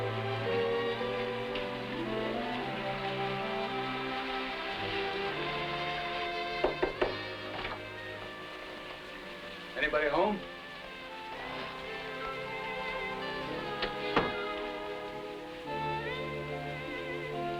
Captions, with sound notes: (door knocking) - Anybody home?